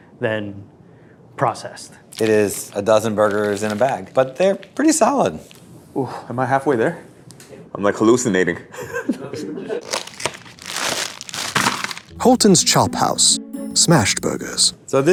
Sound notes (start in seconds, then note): 9.7 laughs; 9.8 plastic crinkling